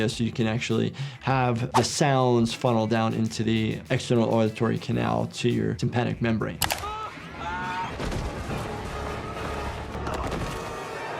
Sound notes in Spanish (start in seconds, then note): 6.7 Brandon gritando; 7.8 música dramática